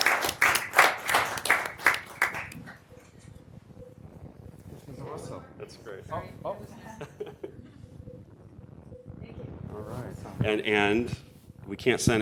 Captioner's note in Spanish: Aplausos